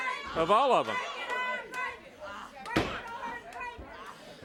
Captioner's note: audience chants